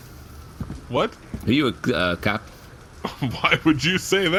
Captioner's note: laughing unsuspiciously